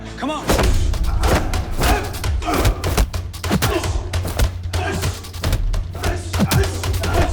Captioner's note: kicks thudding; men grunting